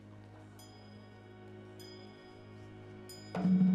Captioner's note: bell rings